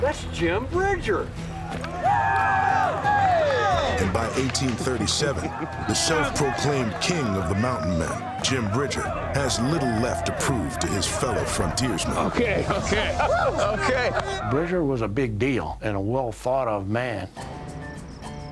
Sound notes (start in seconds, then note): 2.7 men carousing